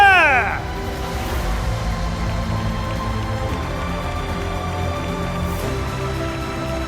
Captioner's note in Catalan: aplaudiments